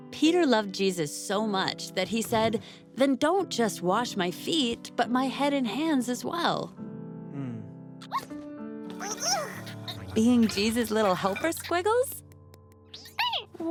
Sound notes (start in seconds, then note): 8.9 caterpillar noises